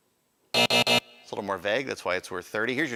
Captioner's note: buzzer